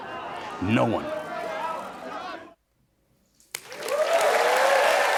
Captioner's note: applause